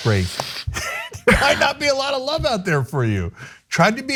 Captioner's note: laugh